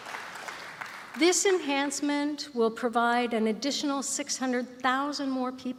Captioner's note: applause